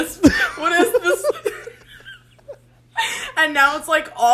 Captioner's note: both laugh